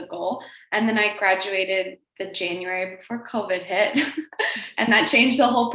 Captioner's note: laughs